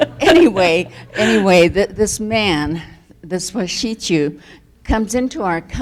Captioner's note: laughs; speaks foreign language